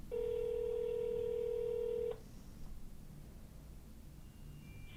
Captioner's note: phone rings